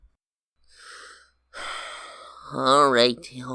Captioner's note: sighs deeply